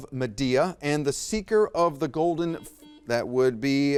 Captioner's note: buzzer beeps